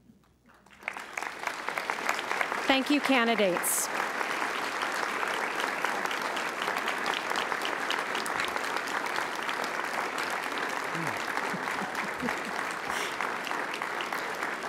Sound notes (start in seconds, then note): 2.0 applause; 4.6 applause